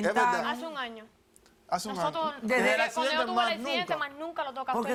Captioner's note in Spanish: Hablan al unísono